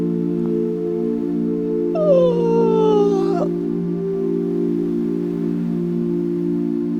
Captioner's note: soft music; stretching loudly